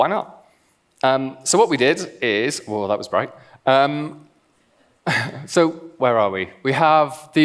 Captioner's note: laughs